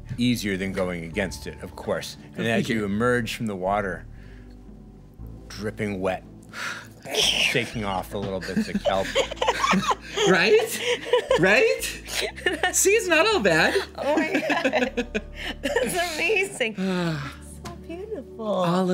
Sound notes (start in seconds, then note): 10.0 X and Annabelle laughing